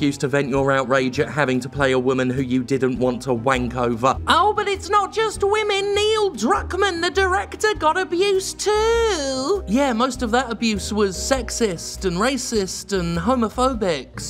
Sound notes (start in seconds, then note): 4.2 mocking impression; 5.9 mocking